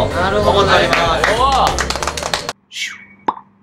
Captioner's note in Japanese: 拍手